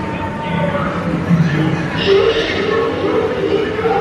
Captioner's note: alien noises